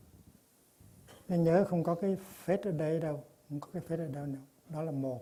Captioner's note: in Vietnamese